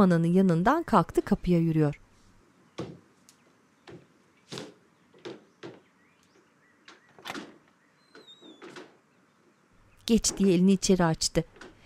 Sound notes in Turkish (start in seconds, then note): 8.0 Kapı açılma sesi